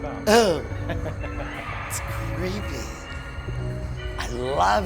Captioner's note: laughter